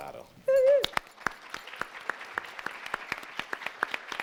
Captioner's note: applauding